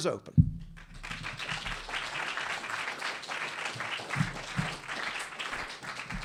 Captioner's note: audience applauding